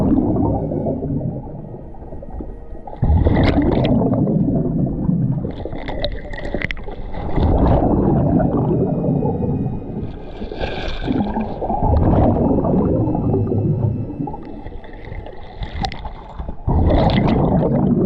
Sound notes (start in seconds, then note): 3.6 suspenseful music continues; 3.6 water bubbling